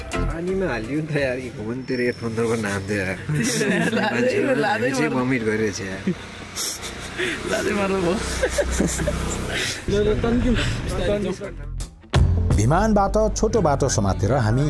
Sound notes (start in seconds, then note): 6.5 laughs; 8.2 laughter